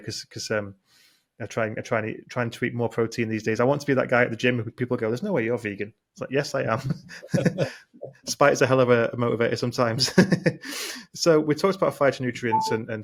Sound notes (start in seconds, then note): 10.7 laughs